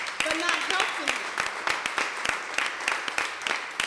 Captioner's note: applause